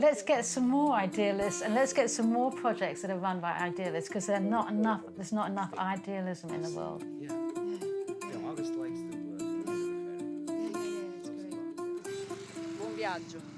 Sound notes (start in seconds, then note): 7.8 all chattering; 7.8 light acoustic guitar music